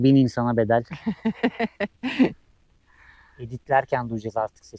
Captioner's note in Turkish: kahkaha